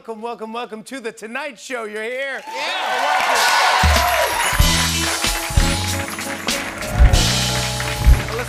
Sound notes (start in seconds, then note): 2.4 cheers and applause